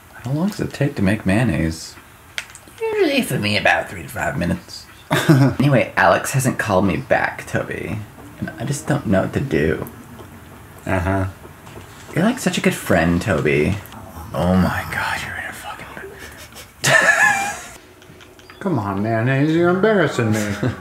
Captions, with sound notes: how long does it take to make mayonnaise usually for me about 3 to 5 minutes anyway Alex hasn't called me back Toby I just don't know what to do uh huh you're like such a good friend Toby oh my god [sniffing noises] come on mayonnaise you're embarrassing me